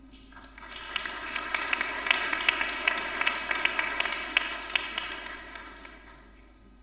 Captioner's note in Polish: oklaski